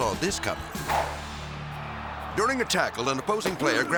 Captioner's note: crowd shouting